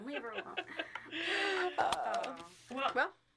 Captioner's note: all chuckling